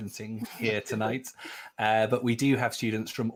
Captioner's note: laughing